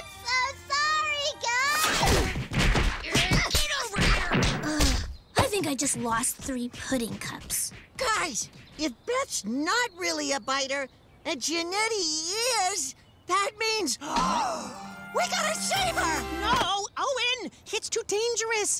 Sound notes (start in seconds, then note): 1.6 fighting sounds; 14.0 gasp